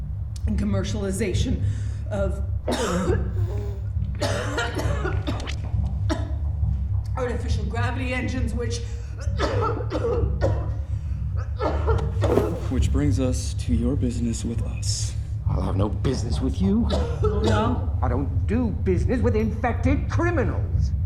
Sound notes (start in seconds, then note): 2.6 violent coughing; 3.0 wheezing; 9.1 continued coughing